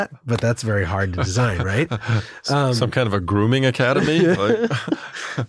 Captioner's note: laugh